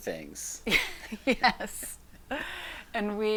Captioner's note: laughs